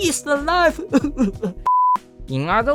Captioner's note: cried